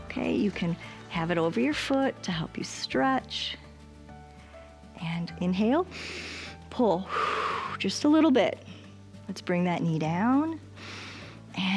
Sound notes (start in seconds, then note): 7.0 exhales; 7.1 inhales; 10.8 inhales